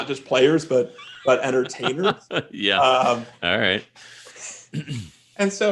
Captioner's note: laughs